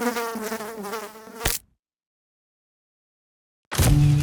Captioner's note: fly buzzing; fly splatting